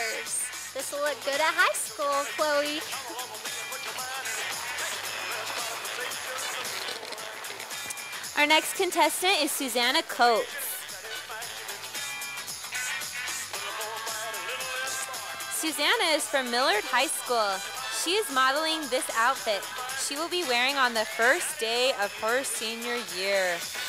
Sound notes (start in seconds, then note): 4.6 sound of applause from audience